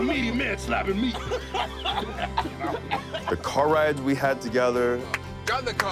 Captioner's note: laugh